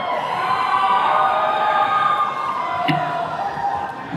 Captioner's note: attendees cheering